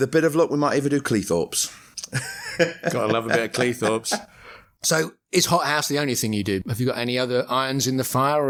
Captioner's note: laughter